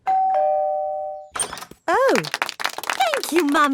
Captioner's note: doorbell ringing; crowd applauding